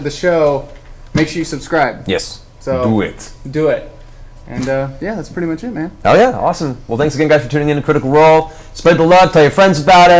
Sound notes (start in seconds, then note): none